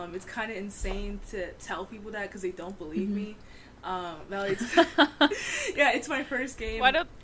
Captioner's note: laughter